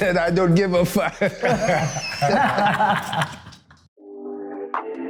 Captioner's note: laughing; relaxed hip-hop